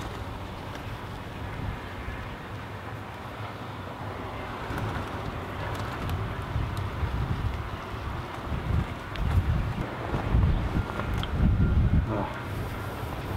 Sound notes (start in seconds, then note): 5.2 wind blowing